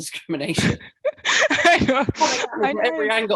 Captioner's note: chuckles